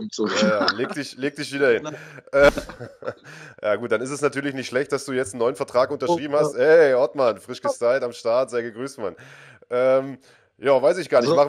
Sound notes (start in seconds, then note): 1.7 laughs